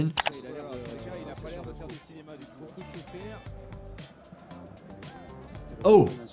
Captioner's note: commentator talks in foreign language